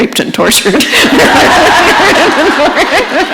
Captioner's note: laughter